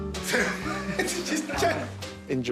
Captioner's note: laughing